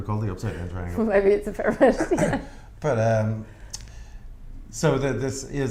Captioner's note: laughs